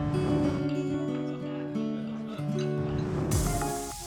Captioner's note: whoosh